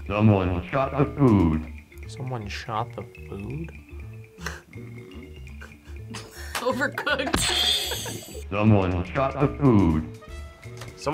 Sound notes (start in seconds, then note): 5.0 laughs